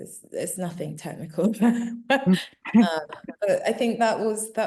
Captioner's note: chuckling